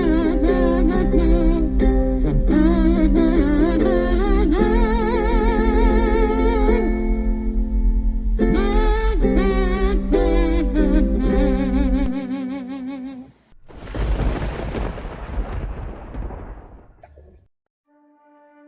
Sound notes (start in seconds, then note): 13.6 thunder; 17.6 scary music